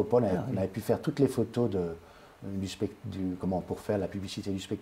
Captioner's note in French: Rire